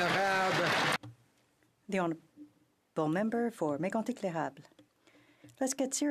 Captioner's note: some Applause